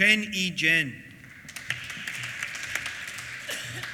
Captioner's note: applause